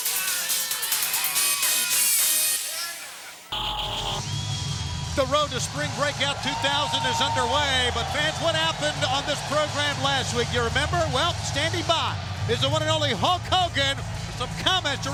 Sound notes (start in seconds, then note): 1.6 crowd cheering; 3.5 electronic whirring